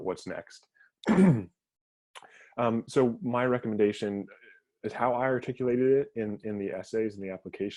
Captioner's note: cough